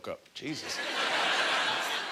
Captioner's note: audience laughter